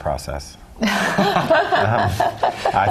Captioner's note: laugh